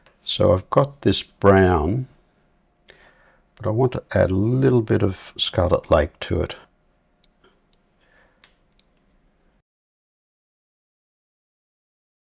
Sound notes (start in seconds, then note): 8.1 silence